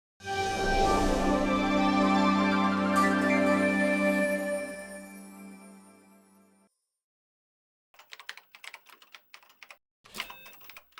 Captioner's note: typing